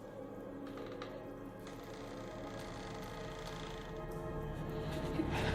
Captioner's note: door creaks slowly